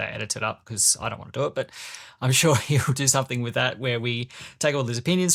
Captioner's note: laughs